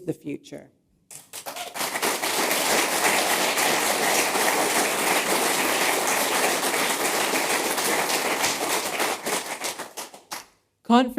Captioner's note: applause